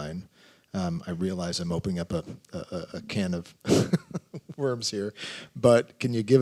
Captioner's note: laughs